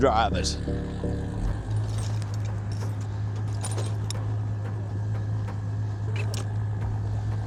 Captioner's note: engine revving